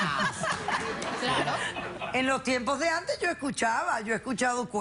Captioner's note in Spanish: Risas